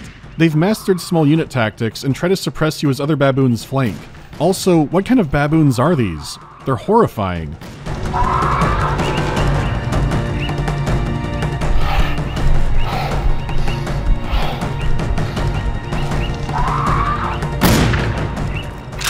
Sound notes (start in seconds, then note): 7.5 battle drums; 11.0 low, monstrous breathing; 14.9 battle drums; 17.6 pow